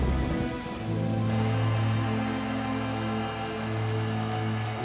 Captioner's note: thunder rumbling; machinery whirring